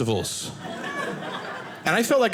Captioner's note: audience laughing